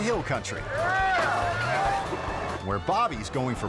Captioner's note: guys yelling